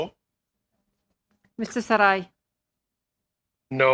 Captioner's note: speaking in French